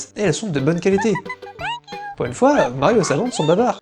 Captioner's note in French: rire